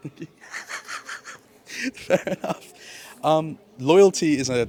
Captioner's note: laughs